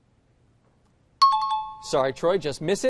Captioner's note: chiming